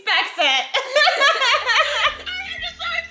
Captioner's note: laughs